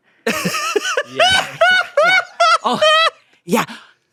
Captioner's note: laughs